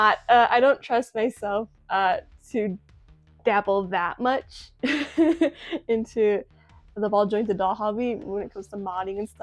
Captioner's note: laughs